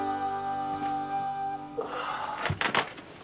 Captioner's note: sighing